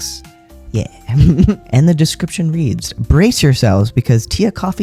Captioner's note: laugh